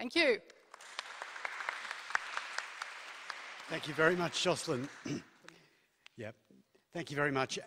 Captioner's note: applause